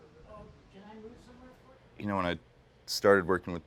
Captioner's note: indistinct conversation